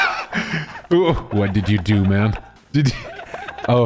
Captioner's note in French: rires